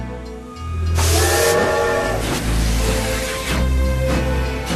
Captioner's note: train whistle, chugging